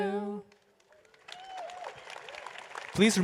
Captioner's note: applause